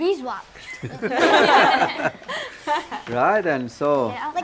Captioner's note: all laughing